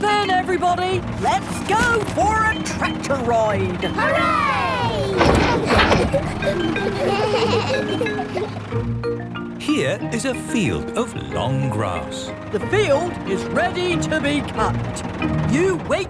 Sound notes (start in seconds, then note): 4.1 giggles; 7.1 bleating